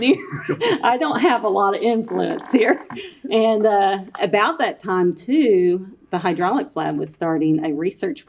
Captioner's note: laughs